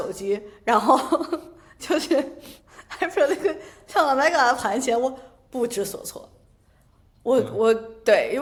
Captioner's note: laughter